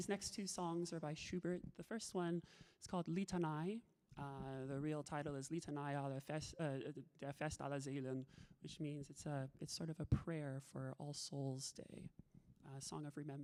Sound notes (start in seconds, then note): 6.0 talking in a foreign language